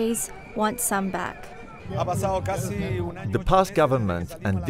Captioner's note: speaking in Foreign Language